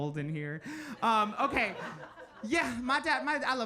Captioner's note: audience laughing